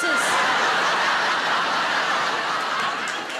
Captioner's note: audience laughs